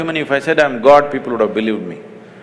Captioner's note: none